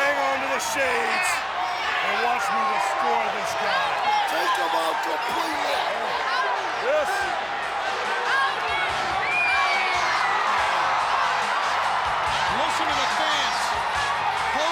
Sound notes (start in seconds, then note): 10.1 audience cheering